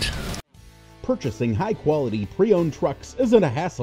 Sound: voiceover

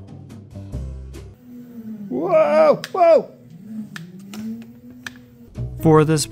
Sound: scary mechanical noises

